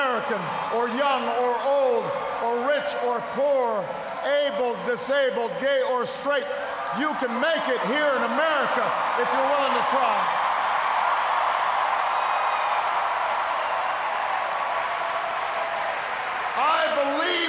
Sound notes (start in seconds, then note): 12.0 cheers, applause